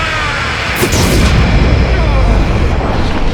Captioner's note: booooooom!